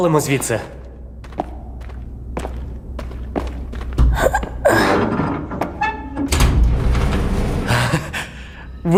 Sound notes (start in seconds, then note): 4.0 grunting; 7.7 chuckles